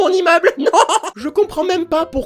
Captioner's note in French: rire